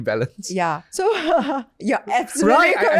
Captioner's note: laughs